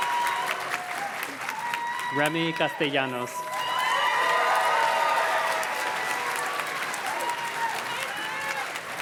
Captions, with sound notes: Remi Castillanos. (audience cheers and claps)